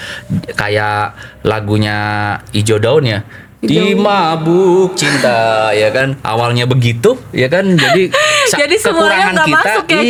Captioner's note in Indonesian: tertawa